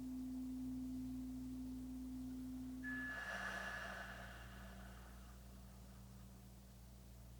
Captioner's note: chimes ringing continues; slow breathing continues